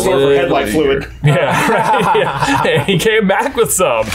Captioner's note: both laugh